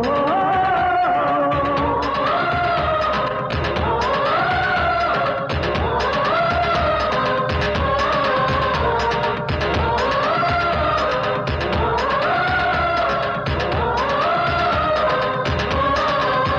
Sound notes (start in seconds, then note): none